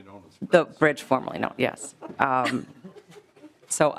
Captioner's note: laughing